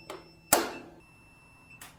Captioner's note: beeping; beeping stops; whack